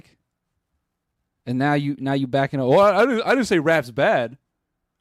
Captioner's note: in mocking tone